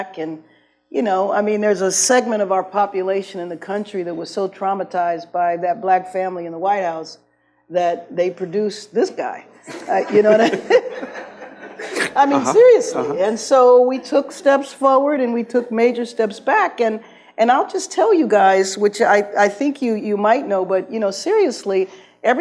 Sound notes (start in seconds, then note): 9.6 laughs; 9.7 audience laughs